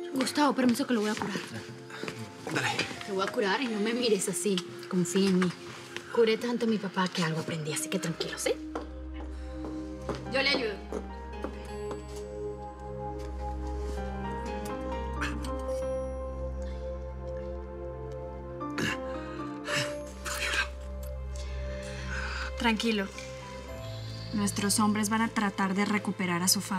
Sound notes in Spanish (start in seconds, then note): 16.8 Quejidos; 20.4 Susurra